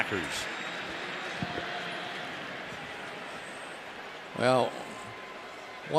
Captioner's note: pa announcement